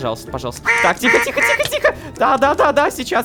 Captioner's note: goose raging